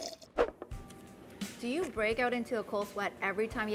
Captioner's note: slurping